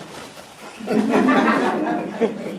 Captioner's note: laughter